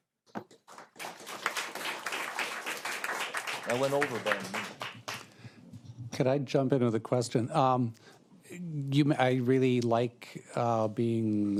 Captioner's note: applause